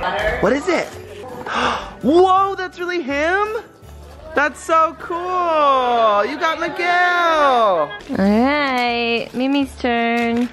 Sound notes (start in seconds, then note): 1.4 gasps